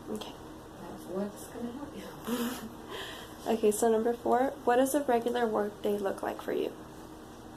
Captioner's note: laughs